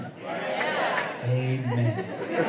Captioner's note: cheers